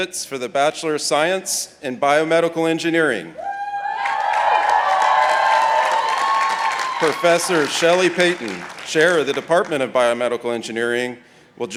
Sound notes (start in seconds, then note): 3.4 participants cheering